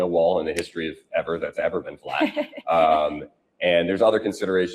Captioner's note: laughs